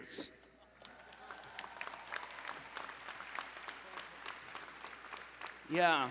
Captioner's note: applause